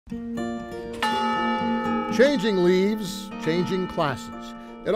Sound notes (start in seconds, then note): 0.1 gentle music; 1.0 bell ringing